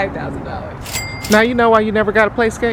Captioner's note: cash register rings